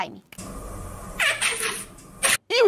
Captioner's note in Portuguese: slime faz som de peido